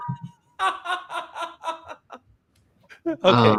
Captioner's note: laughter